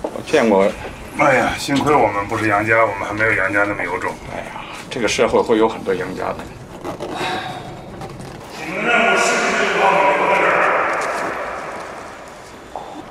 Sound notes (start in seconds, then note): 7.1 sigh